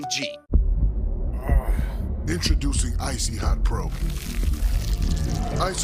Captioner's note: heartbeats